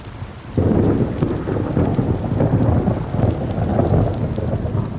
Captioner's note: thunder rumbling